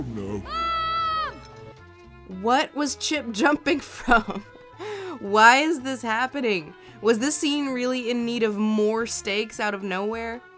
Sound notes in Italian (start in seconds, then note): 2.9 voce fuori campo